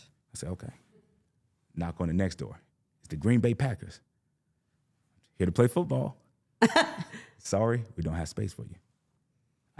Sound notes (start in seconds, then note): 6.6 laughs